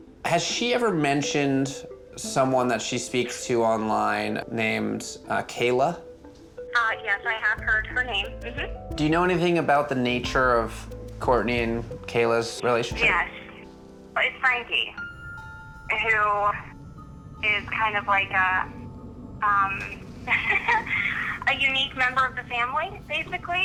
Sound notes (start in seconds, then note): 6.9 woman on Phone; 13.1 woman on Phone